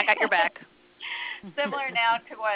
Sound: laughter

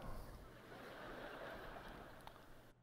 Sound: laughter

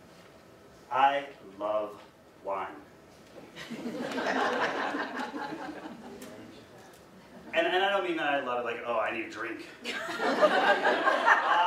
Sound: audience: laughter; audience: laughter

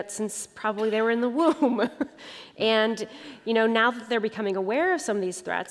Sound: laughter

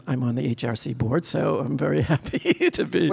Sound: laughing

